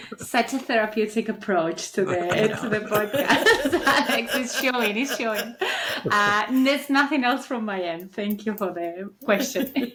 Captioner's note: laughs